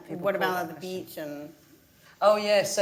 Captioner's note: none